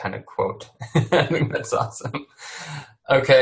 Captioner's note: laughs